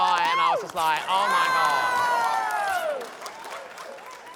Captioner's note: cheering